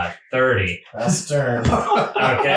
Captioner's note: laughing